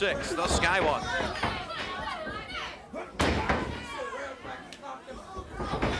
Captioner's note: blows thudding